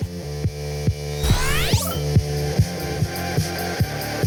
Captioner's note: digital burst of sound